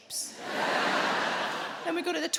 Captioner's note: crowd laughs